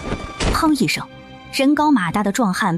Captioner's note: bang!